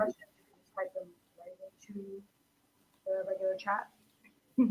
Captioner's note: people mumbling